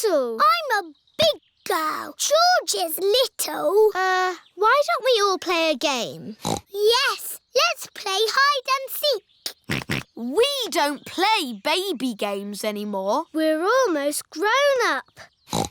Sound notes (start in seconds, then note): 6.4 snorts; 9.3 snorting